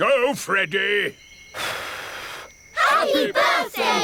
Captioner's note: blows